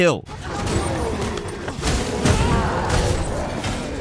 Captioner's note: robust sound effect; character growling; character screaming